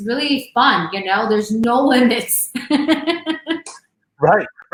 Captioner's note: laughs